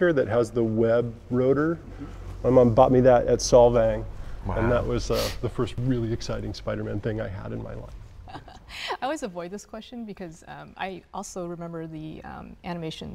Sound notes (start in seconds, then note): 8.2 laughing